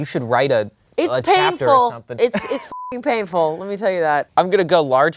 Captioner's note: beep